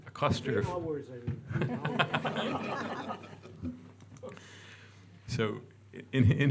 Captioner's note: audience laughing